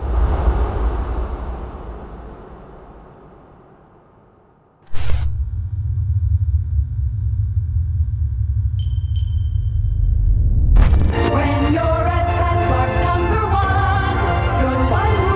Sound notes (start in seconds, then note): 0.3 foreboding music; 5.3 machine whirring; 9.5 electronic beeping